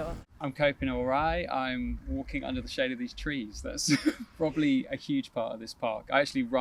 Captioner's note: laughs